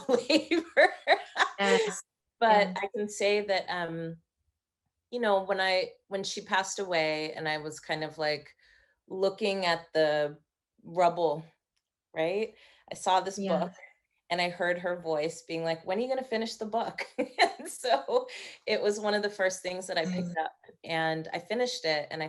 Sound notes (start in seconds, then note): 0.9 laughing